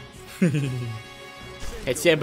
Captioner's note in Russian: садистский смех